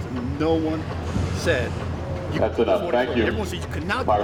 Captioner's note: announcer in background